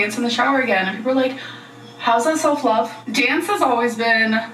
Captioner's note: none